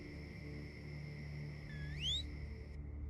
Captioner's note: whistling